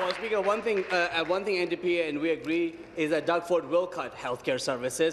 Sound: applause

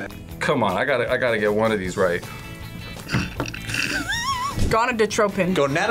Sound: laughs

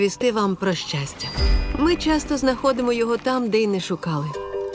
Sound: bicycle bell chimes

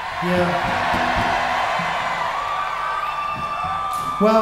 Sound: audience cheers

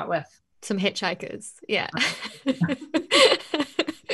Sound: laughs

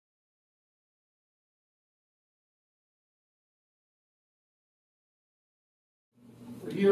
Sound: silence

